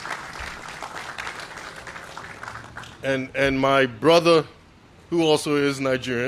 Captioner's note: applause